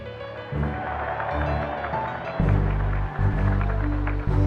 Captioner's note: applause